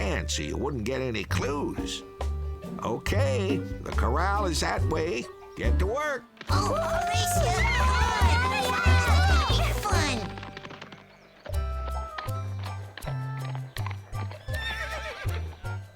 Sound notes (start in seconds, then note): 8.8 chattering, shouting